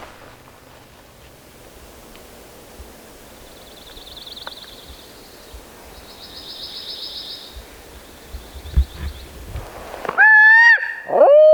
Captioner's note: natural noises - birds; owl calls